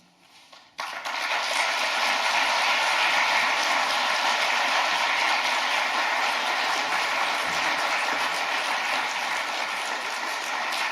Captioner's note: claps